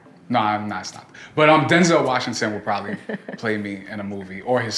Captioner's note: laughs